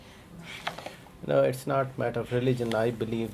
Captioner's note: air blowing